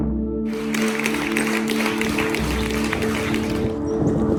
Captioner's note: audience applause